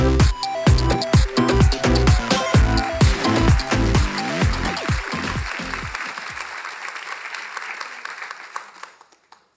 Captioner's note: applause